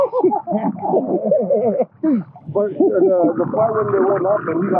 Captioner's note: all laughing